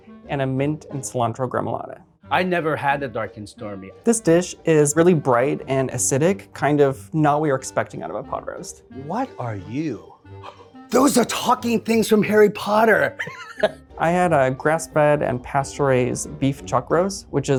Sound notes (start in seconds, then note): 10.4 gasps; 13.1 laughs